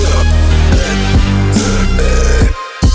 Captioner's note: iron man's burps; spy burp